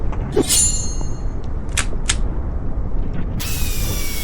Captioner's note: metal clanging